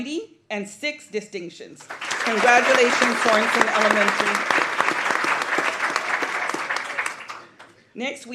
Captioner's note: applause